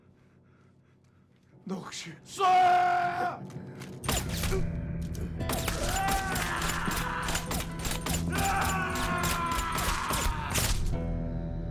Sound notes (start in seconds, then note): 5.6 Hwayi screams